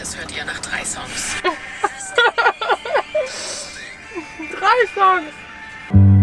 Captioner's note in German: Lachen